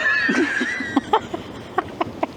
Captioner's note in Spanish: Risas